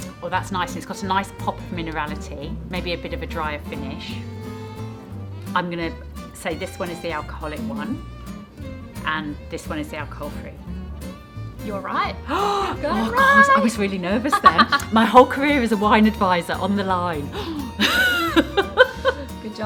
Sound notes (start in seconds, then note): 12.2 gasping; 14.0 laughing; 18.6 laughing